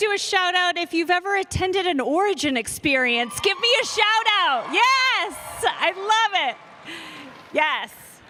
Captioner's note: cheers and applause